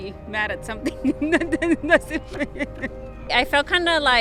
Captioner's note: interviewee laughing